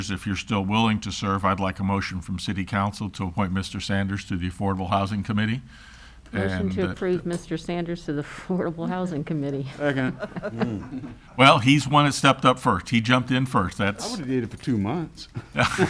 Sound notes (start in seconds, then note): 9.5 laughs